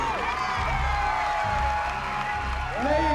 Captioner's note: cheering